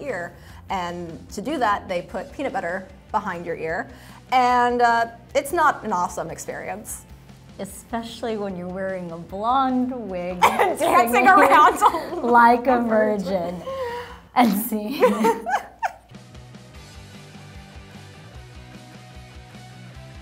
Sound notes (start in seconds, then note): 10.4 laughing; 14.9 laughing; 16.4 upbeat music